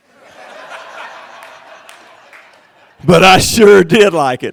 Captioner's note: crowd laughing